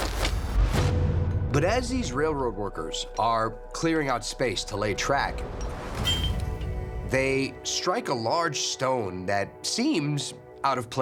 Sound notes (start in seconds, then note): 6.0 pickaxe clangs